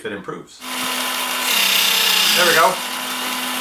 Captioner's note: sharpening noise